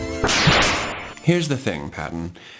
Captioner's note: word bubble whirs; word bubble clanks